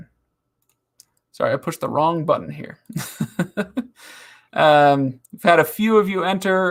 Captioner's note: laughing